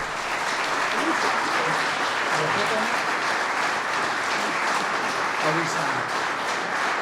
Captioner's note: applause